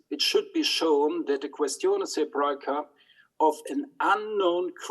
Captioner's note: speaks in foreign language